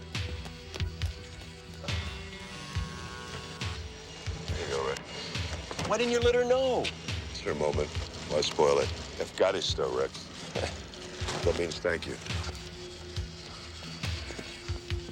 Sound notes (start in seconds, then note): 10.7 speaking romanian